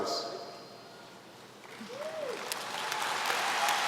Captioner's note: applause